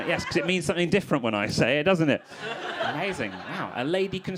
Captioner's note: crowd laughing